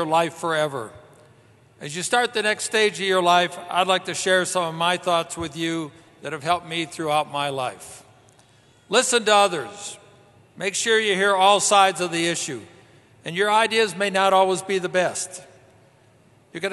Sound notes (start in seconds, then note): none